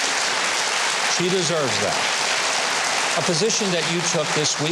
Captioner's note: audience applauding